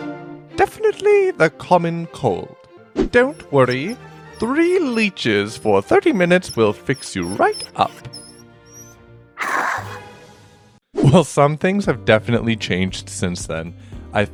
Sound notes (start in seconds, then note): 9.4 snarling